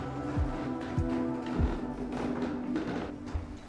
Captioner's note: footsteps fading